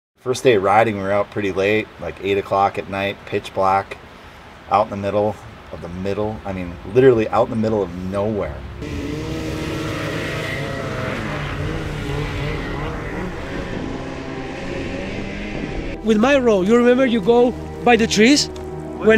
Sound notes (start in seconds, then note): 7.9 engines revving; 9.2 mellow music